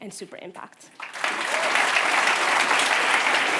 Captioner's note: applause